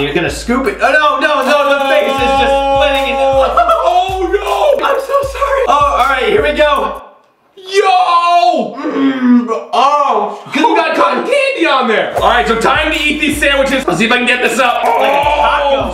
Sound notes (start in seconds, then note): 3.9 shouting; 7.6 moans